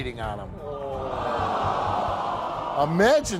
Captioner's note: audience groans